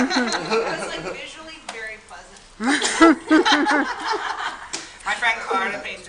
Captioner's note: laughter